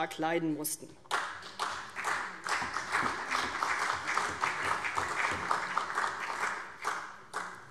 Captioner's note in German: Beifall CDU und vereinzelt BÜNDNIS 90/DIE GRÜNEN